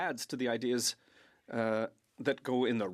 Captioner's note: speaking French